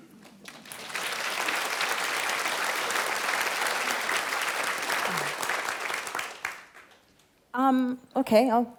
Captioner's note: applause